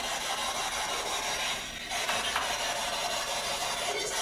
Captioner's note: radio noise